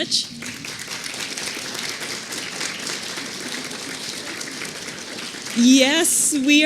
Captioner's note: applause